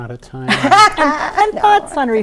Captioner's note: laughing